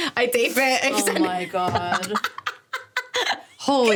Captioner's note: laughing